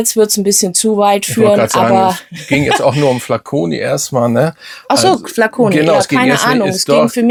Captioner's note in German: gelächter